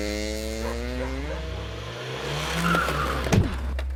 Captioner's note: dog barking; engine revving; tires screeching; body thuds